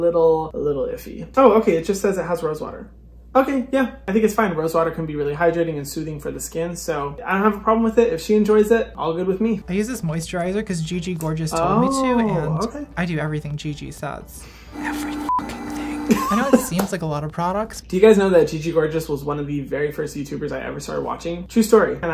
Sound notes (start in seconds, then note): 16.0 laughs